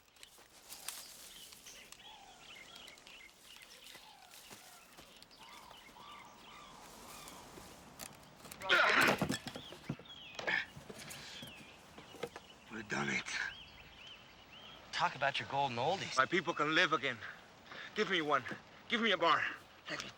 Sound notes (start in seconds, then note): 8.6 men groaning